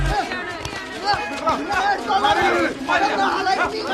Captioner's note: scuffle